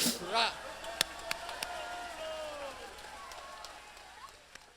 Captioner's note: audience cheering